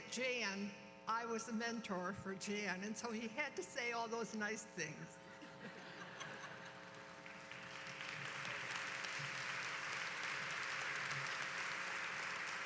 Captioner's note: applause